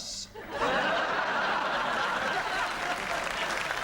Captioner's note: laughter and applause